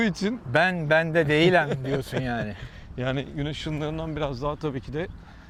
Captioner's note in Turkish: kahkaha